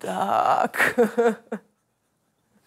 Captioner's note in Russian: смеется